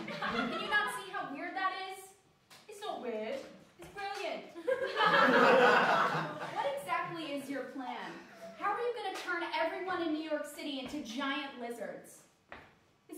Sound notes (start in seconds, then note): 4.6 laughter